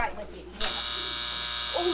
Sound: buzzing

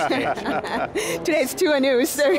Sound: panelists laughing

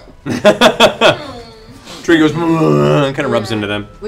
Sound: laughs; bear noises

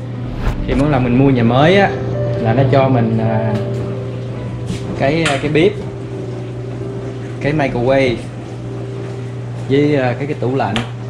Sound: laundry machine and dryer

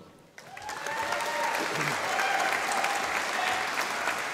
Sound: audience applauding

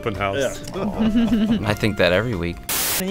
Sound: laughter

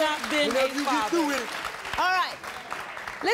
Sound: audience applauding

